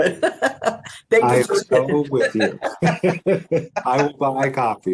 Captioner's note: laughs